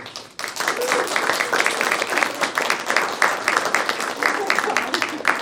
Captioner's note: audience applauds